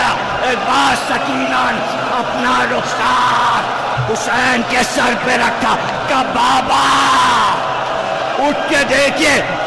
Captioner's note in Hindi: चीखने की आवाज़